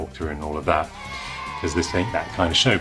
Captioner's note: children cheering